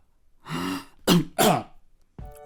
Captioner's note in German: husten